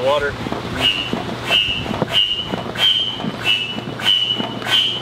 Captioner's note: pump squeaking